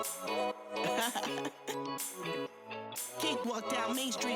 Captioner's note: singer laughs